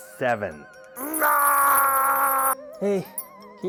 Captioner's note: yells in frustration